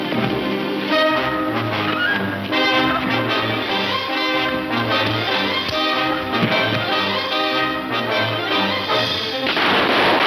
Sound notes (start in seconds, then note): 3.9 dull thudding; 9.4 gunshots